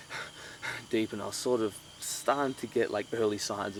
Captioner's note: deep breathing